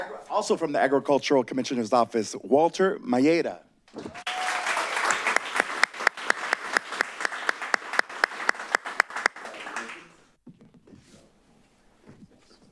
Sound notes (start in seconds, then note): 4.1 applause